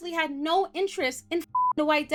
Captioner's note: beep